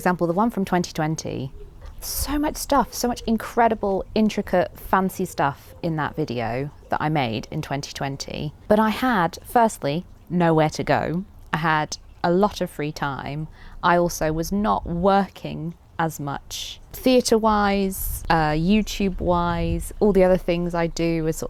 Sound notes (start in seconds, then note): none